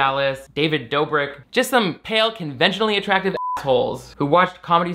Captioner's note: beep